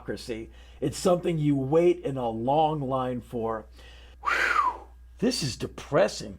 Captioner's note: whistles